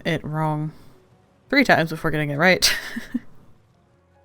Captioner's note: laughs